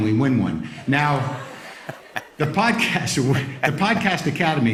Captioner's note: laughter